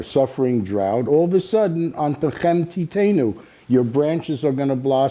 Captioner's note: speaking Hebrew